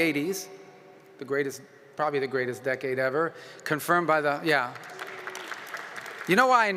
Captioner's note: applause